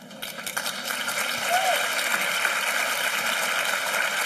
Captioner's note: applause